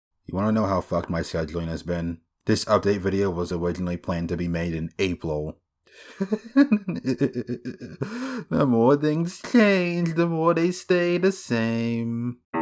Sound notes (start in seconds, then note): 6.0 laughs